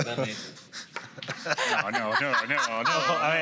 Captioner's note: they laugh